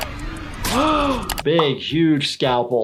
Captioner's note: person gasps